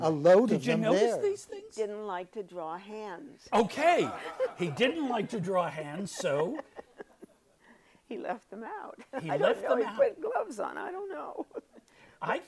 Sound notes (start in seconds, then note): 6.2 laughs